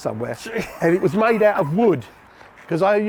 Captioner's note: laughing